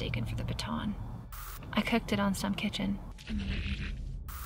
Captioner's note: static crackles